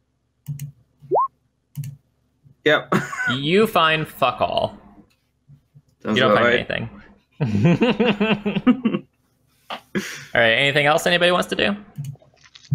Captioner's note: laughter